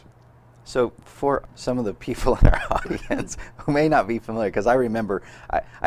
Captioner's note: laughs